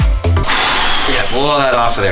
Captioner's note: blowing